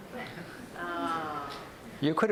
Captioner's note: audience groans